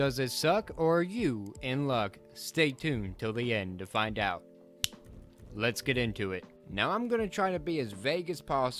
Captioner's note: snaps